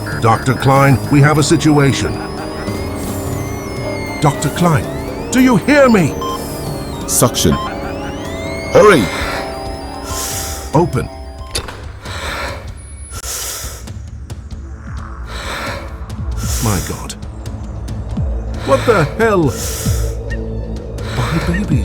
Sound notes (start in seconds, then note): 10.0 heavy breathing; 10.7 drums pounding